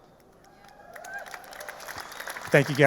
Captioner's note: audience applauding; audience cheering